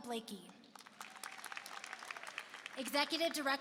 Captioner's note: applause